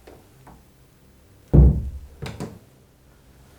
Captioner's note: closing a door